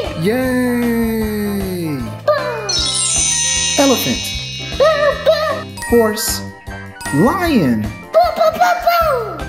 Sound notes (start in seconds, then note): 2.6 high-pitched chimes; 5.3 bell dinging